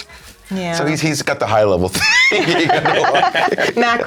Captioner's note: laughter